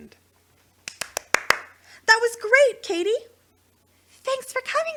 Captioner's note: clapping